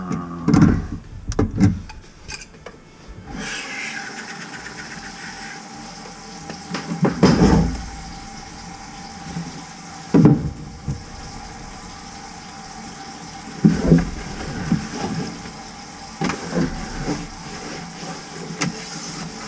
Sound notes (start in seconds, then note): 3.5 runs water